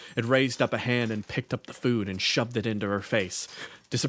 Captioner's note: none